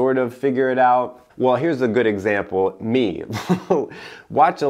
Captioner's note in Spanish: risas